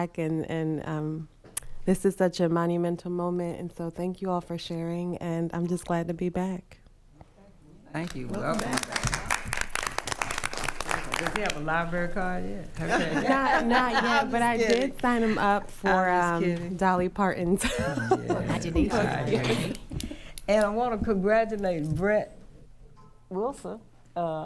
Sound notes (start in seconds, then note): 8.1 attendees applauding; 12.8 board members laughing; 17.6 laughing